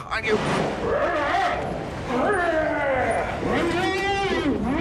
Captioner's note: grunting as troll